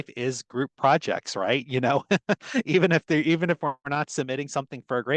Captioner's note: laughter